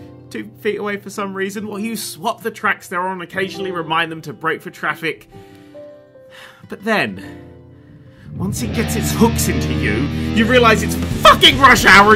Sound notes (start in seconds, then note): 6.3 sigh